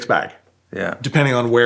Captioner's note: none